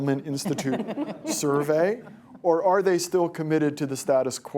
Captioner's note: laughter